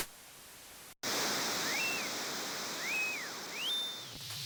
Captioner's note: crowd cheers